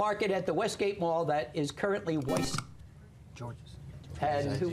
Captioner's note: buzzer